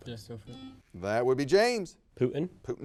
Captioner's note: buzzer beeps